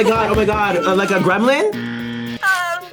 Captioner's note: buzzer